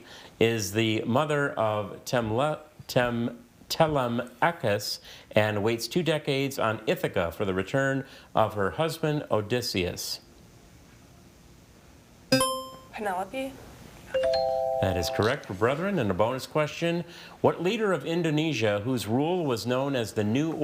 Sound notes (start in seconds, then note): 12.3 buzzer chiming; 14.1 text chiming